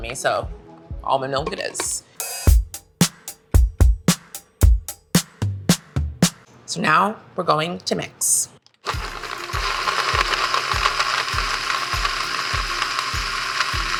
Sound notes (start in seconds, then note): 2.4 upbeat music; 8.8 blender noise